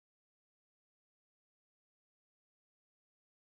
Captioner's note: none